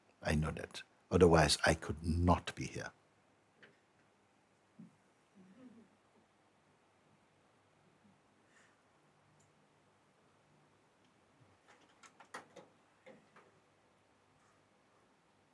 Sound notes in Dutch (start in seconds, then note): 6.8 stilte